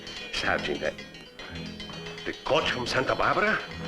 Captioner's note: bell jingling